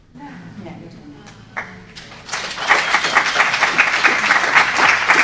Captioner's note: audience applauding